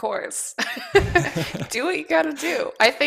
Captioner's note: laughter